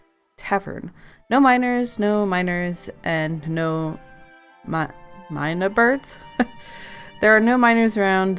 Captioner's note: laughs